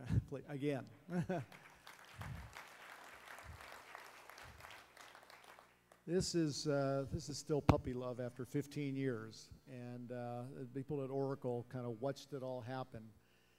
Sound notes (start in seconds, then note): 1.1 laughs; 1.4 applause